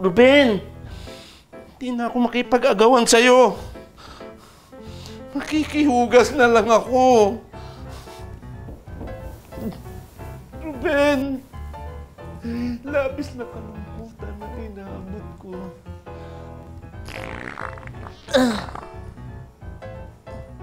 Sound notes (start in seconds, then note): 17.0 farting; 17.0 farting continuously